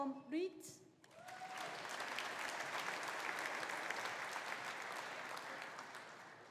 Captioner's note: audience applauding; audience cheering